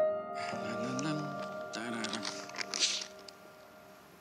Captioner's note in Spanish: Tararea